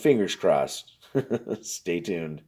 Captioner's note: laughs